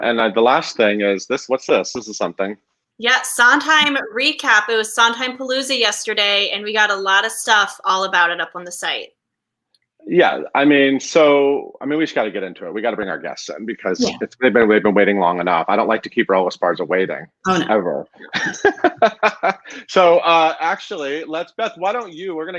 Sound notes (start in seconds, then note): 18.2 group laughing